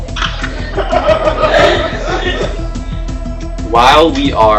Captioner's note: gigling